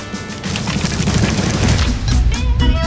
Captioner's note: paper rustles